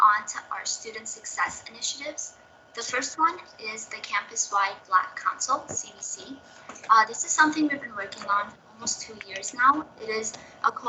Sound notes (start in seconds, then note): none